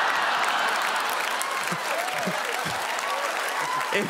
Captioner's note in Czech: potlesk publika